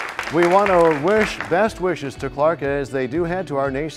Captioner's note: applause